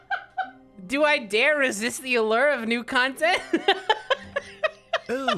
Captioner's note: laughs